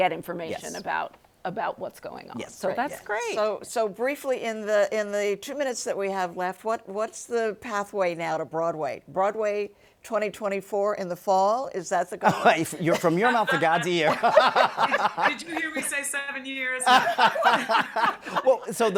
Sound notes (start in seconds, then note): 12.3 laughing; 16.8 everybody laughing